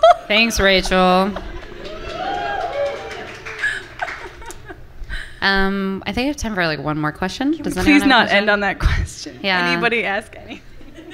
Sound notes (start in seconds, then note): 1.5 cheering and applause from the audience